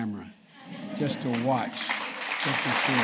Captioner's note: applause